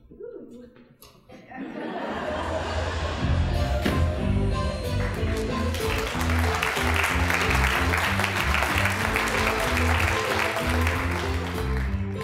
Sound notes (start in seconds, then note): 1.4 audience laughing; 3.5 calliope music; 4.9 applause